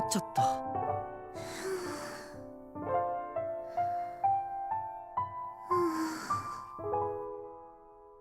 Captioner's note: zzzzzzzzz; silence